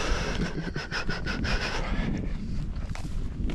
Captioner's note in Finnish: naurua